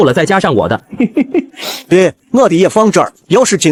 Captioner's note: chuckles